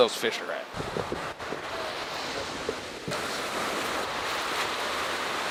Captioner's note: ocean waves crashing